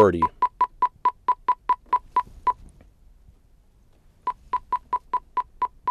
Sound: beeping

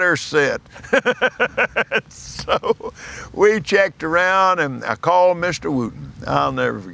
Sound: laughs

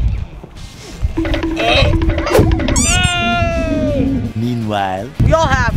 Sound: timer counting down

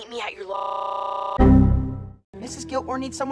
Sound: BSOD sound

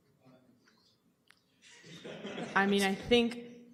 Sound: laughter

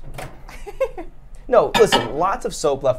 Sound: laughs

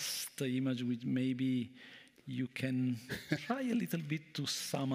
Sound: chuckles

